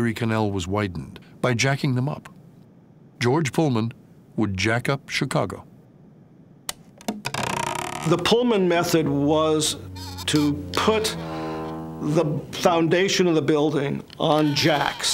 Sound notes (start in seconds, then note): 7.2 machinery creaking